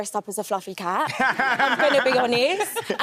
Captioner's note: laughs